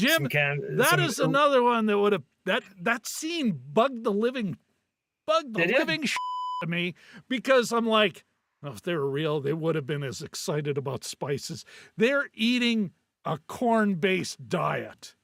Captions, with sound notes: Jim, that is another one that would have, that scene bugged the living, bugged the living (beep) to me because I'm like, oh, if they were real, they would have been as excited about spices. They're eating a corn-based diet.